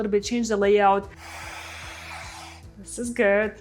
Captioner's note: bright music; blow-dryer whirring